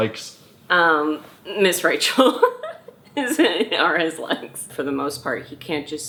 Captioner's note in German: Mutter lacht